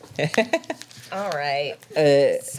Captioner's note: laughs